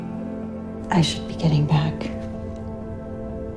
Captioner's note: voiceover